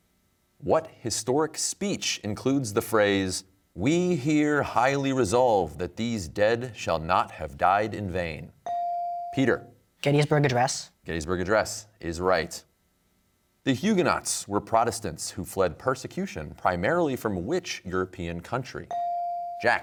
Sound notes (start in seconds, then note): none